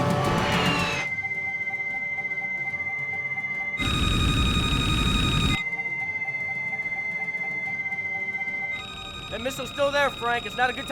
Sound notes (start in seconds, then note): 1.2 loud beeping; 1.2 radio beeping